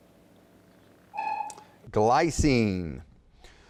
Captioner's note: dinging